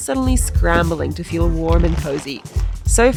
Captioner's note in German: Kiste klappert